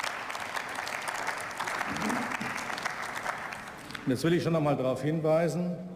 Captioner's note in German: Beifall